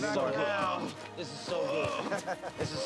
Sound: groaning continues

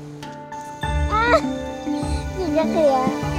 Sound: cô gái cười; girl laughing

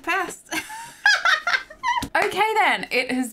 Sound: laughing

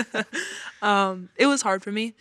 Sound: all laughing

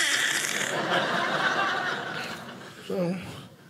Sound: audience laughing

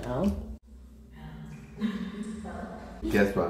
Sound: echo

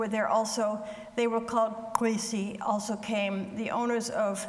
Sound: speaks foreign language

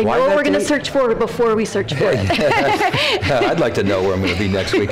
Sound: laughter

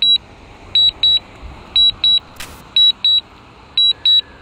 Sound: drone beeps

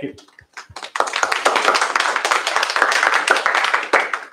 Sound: applause

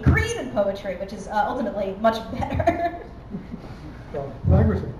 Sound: laughing

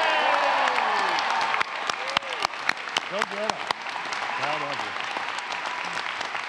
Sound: applause

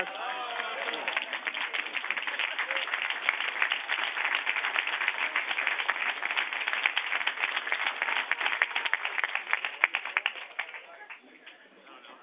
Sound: applause

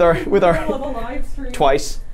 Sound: laughs

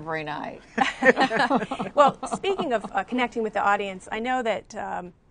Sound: laughter

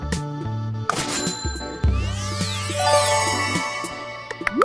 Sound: money Sound

